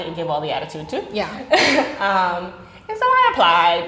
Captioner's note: laughing